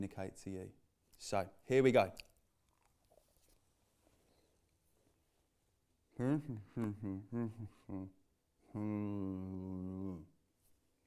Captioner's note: mumbles